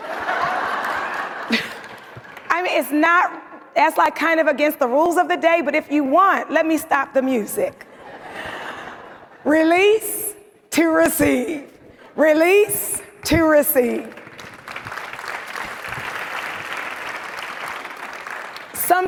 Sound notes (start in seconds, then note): 0.0 audience laughing; 7.9 audience laughs; 14.1 audience applauds